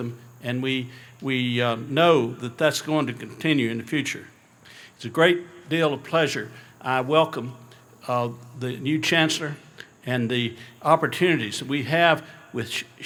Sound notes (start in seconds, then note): none